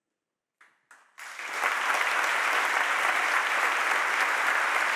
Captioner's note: audience applauding